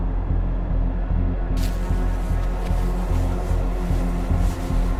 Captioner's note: fabric rustling